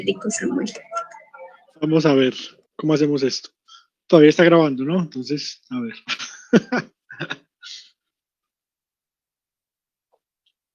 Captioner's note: laughs